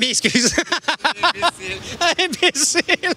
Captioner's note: rires